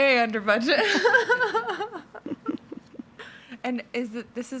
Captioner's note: laughing